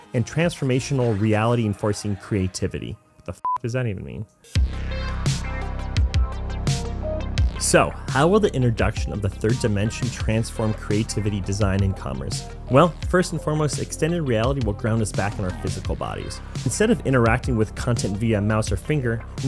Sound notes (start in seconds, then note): 3.4 beep; 4.6 futuristic electronic music